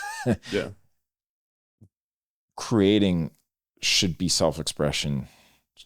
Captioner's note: laughs